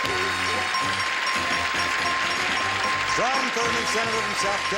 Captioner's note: bell dinging